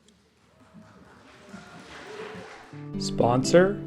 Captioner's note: applause